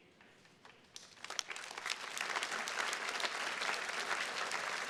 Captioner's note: attendees clapping